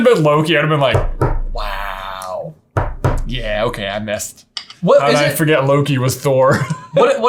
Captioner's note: laughs